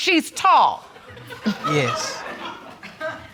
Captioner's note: audience laughing